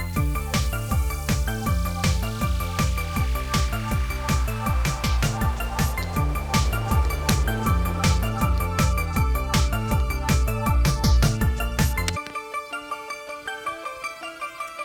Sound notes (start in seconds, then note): 7.2 click; 11.9 click